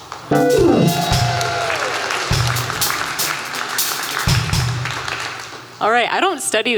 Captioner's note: applause